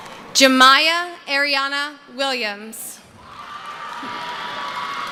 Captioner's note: screaming